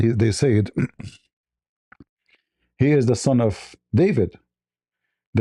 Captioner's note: ketawa